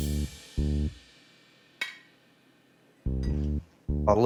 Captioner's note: ceramic clinking